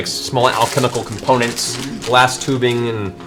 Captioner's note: package crinkling